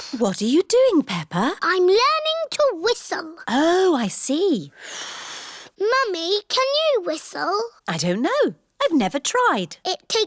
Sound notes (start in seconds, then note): 5.0 blows